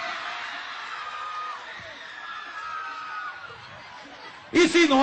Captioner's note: crowd cheering